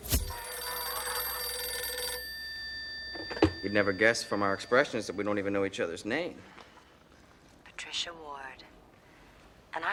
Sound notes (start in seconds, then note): 0.1 phone rings; 7.9 pat